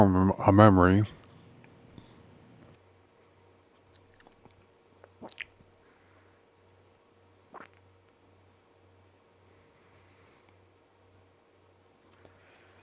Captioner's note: silence